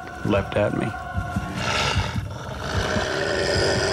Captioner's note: snarling